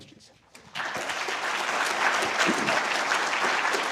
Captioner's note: applause